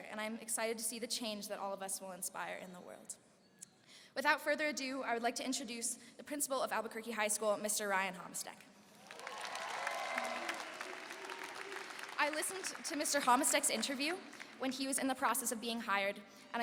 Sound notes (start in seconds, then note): 8.9 applause and cheering